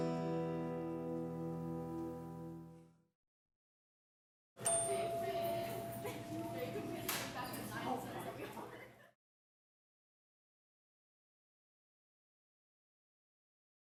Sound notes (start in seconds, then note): 0.0 gentle music; 4.6 bell dings; 4.6 people chattering